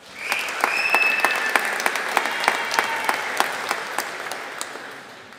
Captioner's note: audience applauding